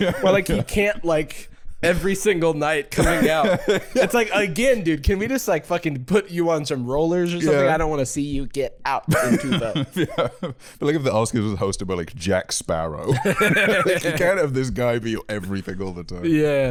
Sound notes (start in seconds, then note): 8.9 robotically